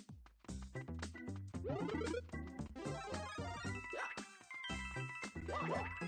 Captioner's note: happy Mario noises